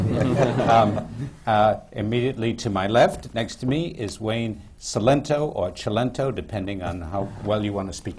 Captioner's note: laughter